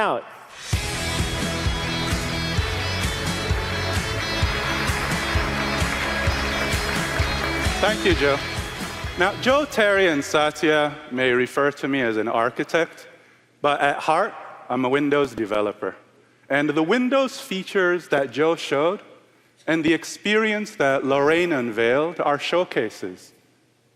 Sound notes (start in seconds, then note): 3.1 applause